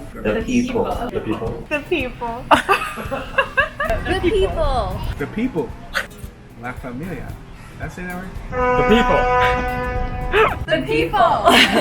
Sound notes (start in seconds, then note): 2.5 laughs; 6.1 gasps; 8.5 horn blaring; 9.7 laughs